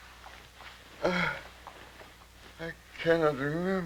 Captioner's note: groaning